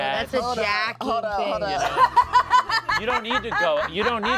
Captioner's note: laughs